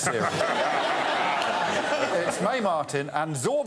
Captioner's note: laughter